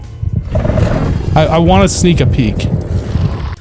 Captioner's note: door grinding